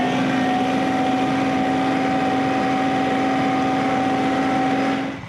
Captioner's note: engine revving